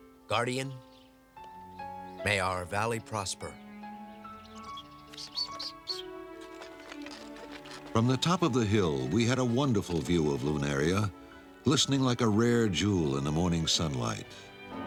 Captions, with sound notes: Guardian, may our valley prosper. (CHITTERING) From the top of the hill, we had a wonderful view of Lunaria, glistening like a rare jewel in the morning sunlight.